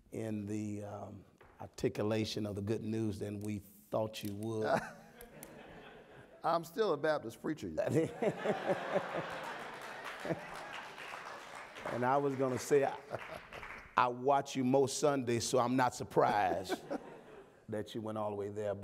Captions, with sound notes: in the articulation of the good news than we thought you would. - I'm still a Baptist preacher. (audience laughing) - And I was gonna say, I watch you most Sundays, so I'm not surprised that you went all the way there.